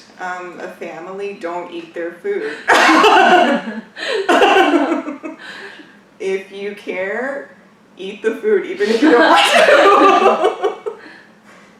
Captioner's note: laughs